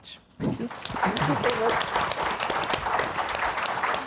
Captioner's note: clapping